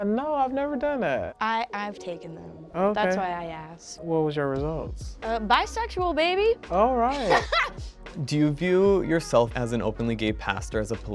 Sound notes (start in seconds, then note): 7.1 laughing